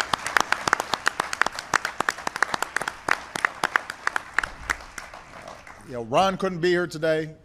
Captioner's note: applause